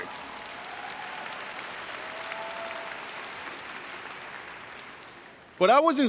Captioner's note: cheering and Applause